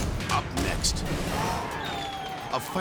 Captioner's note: fireworks exploding